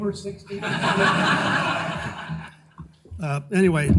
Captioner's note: audience laughing